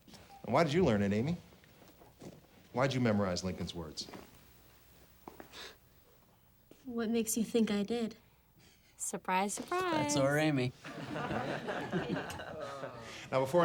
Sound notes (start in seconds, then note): 6.1 scoffs; 10.8 class laughs